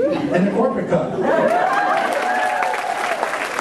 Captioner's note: laughter; applause